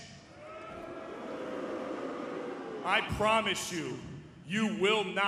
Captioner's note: crowd cheering